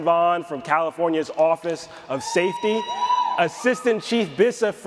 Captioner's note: audience cheers